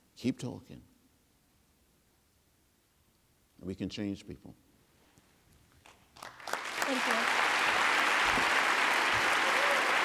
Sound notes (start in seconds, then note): 2.5 applause